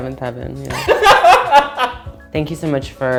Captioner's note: laughs